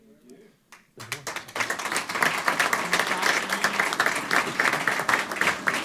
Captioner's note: applause